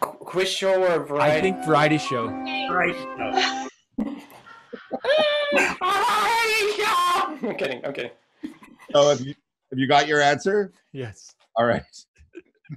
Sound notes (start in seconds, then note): 2.6 suspenseful music; 4.0 laughs